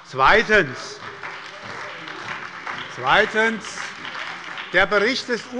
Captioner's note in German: Beifall bei der SPD